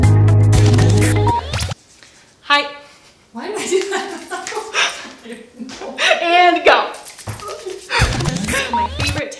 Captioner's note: laughs